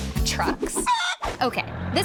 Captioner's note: chicken clucking